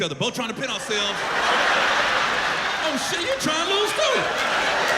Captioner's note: laughter